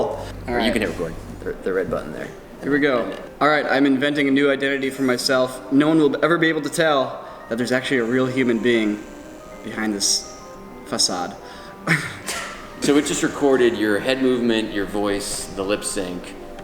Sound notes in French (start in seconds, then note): 11.9 Rires